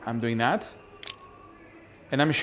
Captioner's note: camera shutter clicks